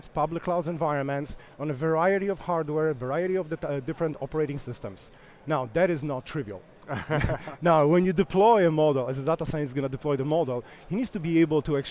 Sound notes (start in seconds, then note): 6.9 laughs